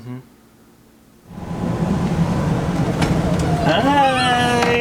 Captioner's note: bus engine whirs